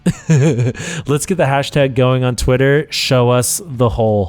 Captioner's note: laughs